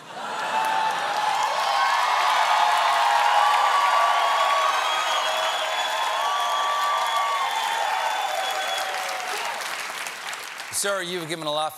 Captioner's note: cheers and applause